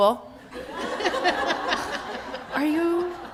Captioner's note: laughter